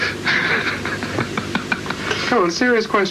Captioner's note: laughs